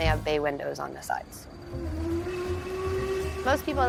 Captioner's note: train horn blows